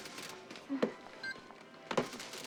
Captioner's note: scanner beeping